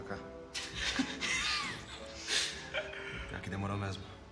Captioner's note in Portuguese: risadas